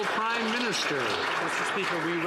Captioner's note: some Applause